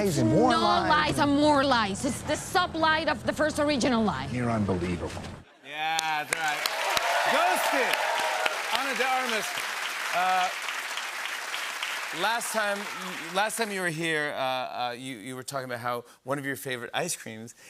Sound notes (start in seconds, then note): 9.5 cheers and applause